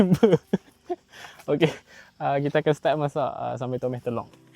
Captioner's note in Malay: ketawa